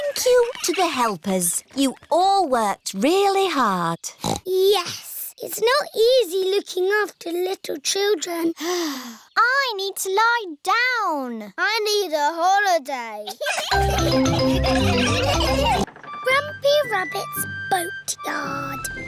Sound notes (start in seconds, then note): 8.9 sighs; 13.3 all laughing